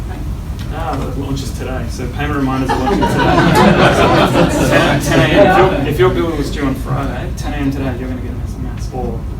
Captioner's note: laughter